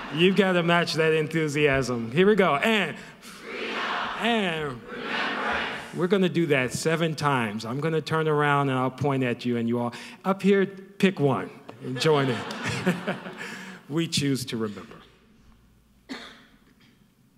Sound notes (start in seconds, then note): 0.0 audience laughing; 11.8 audience laughing